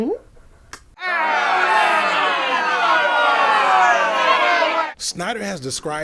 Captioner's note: audience booing sounds